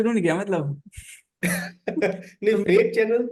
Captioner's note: both laughs